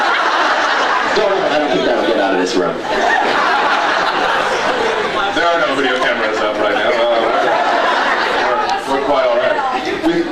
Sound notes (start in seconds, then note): 0.0 laughs